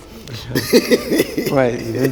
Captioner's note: laughing